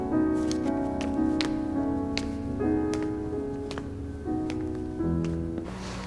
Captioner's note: footsteps